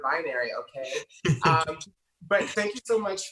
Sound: laughing

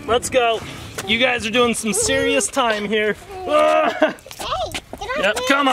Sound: grunts

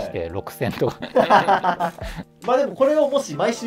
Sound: laughing

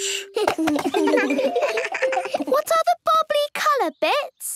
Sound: giggles

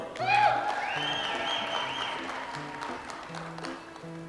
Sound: audience applauds

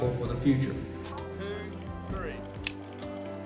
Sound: scissors clip ribbon

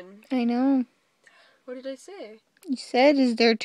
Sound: gasp

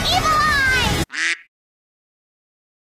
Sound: quack

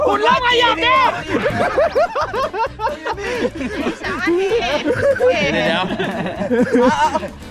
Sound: laughs

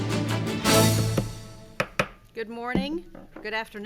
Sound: taps

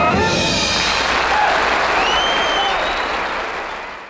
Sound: audience applauding

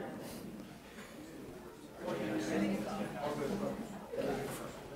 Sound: audience talking

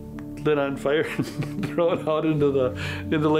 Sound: laughs

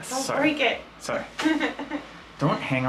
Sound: chuckles

